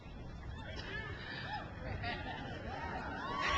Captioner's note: crowd cheers